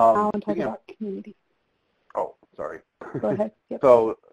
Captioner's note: laughs